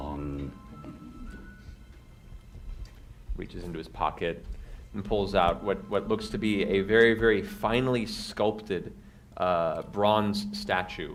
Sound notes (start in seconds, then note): none